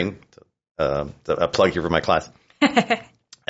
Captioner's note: laughs